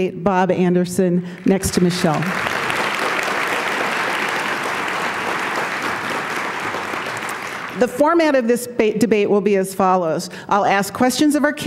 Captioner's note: applause